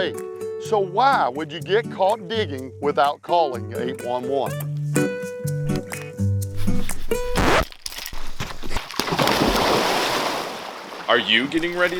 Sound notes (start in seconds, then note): 4.3 charming music; 7.0 record scratch; 8.5 loud splash